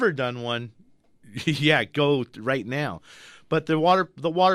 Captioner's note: chuckles